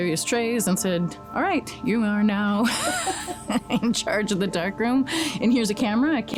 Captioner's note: laughs